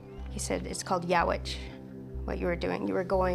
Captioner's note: speaks Nuu-chah-nulth